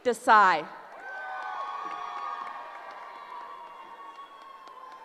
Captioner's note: cheering